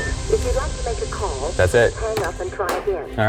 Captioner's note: phone beeping